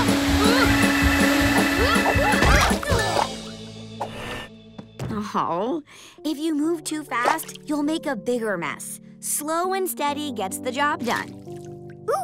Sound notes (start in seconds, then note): 2.4 grunting